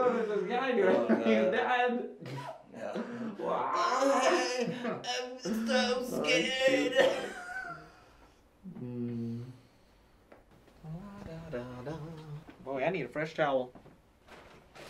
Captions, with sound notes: - What was this guy doing? He's died? - Oh, hey, I'm so scared. (laughing) - La da da da. Boy, I need a fresh towel.